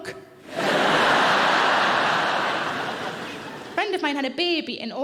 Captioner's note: audience laughing